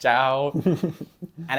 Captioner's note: laughs